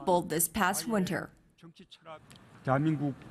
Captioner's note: Korean